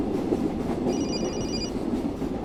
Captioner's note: cell phone ringing